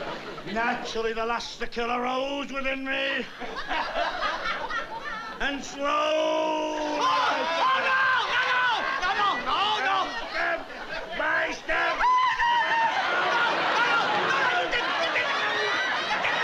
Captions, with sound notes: Naturally, the lust to kill arose within women. And slowly, I turned. Oh. Oh no. No, no, no, no, no. And step by step. [SCREAMS] No! No, no! No, no!